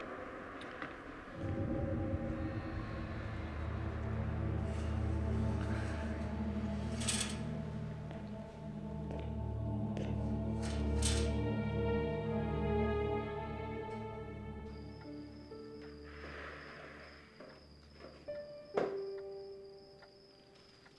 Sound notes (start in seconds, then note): 1.5 soft dramatic music; 14.9 crickets chirping; 17.8 soft piano music